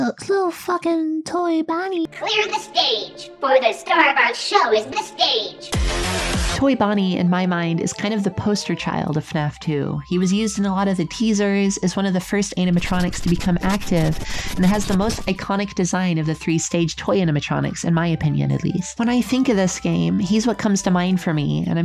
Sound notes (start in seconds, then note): 5.6 loud music; 14.0 furious sniffing